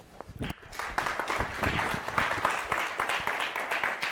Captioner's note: applause